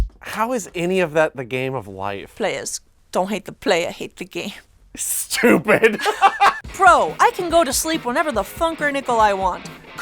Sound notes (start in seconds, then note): 5.6 laughs